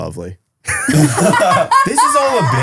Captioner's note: group laughing